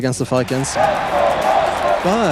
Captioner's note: crowd